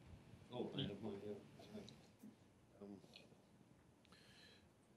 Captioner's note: speaking faintly off mic